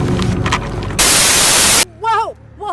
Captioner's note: static crackling